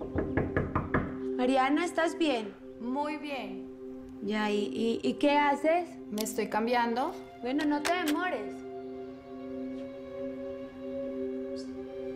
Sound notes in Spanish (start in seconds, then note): 0.0 Toques en la puerta